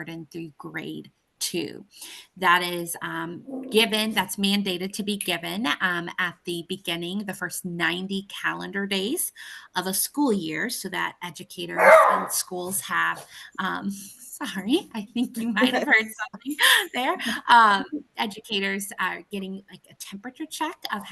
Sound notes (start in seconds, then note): 11.8 dog barks